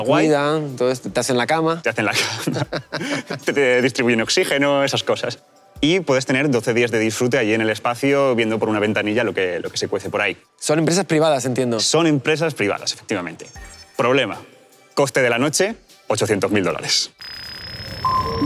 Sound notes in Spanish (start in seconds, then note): 2.1 Risas